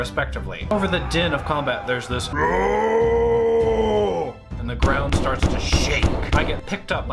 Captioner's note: loud angry roar/bellow